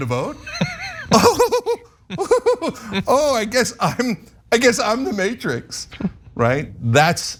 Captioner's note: laugh